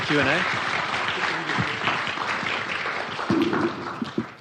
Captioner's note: audience applauding